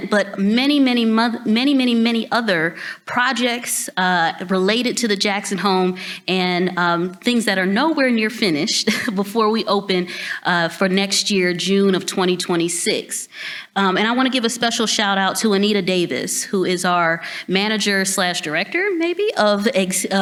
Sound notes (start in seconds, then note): 8.7 chuckles